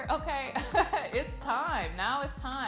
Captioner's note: laughing